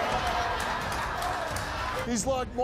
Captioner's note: laughs